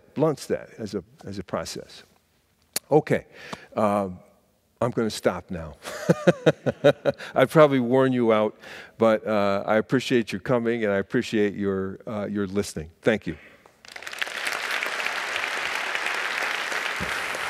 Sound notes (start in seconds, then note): 5.6 laughing; 13.8 audience applauding